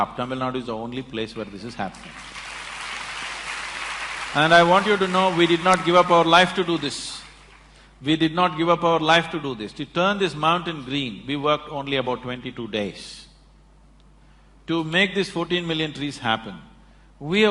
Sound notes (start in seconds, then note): 3.8 applause